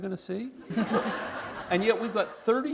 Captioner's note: laughter